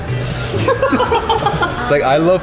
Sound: everyone laughing

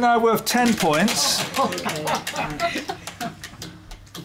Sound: laughter

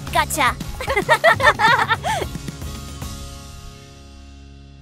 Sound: both girls laugh

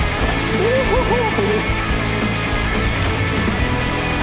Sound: rider hoots

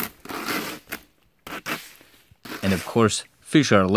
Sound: rake scratching roof

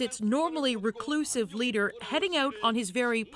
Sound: speaking foreign language

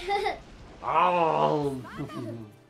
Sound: roar

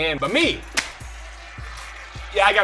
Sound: smacks

